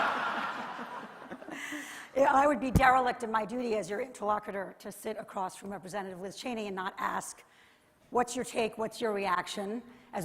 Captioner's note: laughter